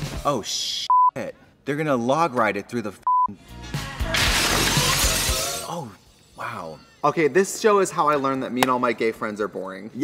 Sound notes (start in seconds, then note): 0.9 beep; 3.0 beep; 4.1 crash